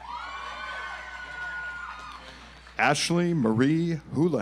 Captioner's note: audience applauds